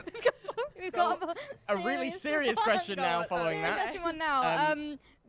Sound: laughter

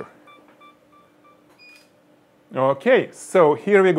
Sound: camera snapping; camera beeping

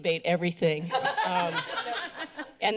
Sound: laughter

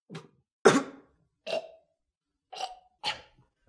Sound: coughs, gags

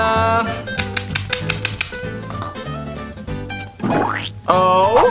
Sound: mascara popping vigorously

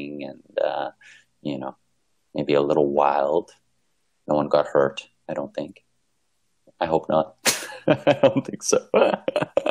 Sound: laughter

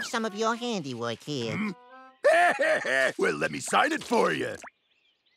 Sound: laughs

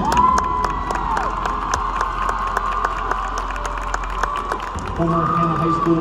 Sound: claps and cheers from audience

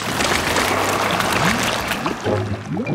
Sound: whirring

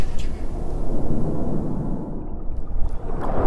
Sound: loud splashing noises

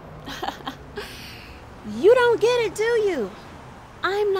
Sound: laughs

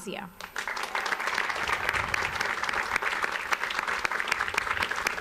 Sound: audience applauds

